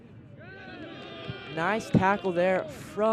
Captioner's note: cheering